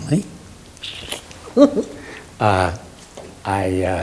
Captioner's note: interviewer laughs